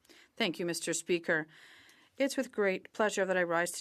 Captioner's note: speaking French